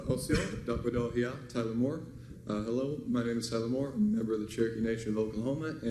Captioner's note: foreign language